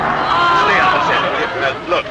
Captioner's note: audience chuckling